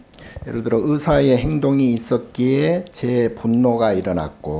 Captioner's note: speaking Korean